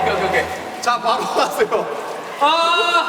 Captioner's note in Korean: ㅋㅋ